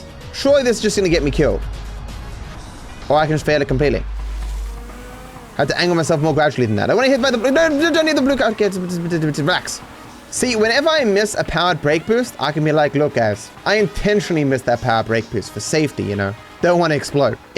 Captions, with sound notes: Surely this is just going to get me killed Or I can just fail it completely I have to angle myself more gradually than that I want to hit by the- Don't hit the blue car! [Speaks gibberish] Relax! See, whenever I miss a powered brake boost, I can be like, “look guys” “I intentionally missed that powered brake boost for safety, you know” Don't want to explode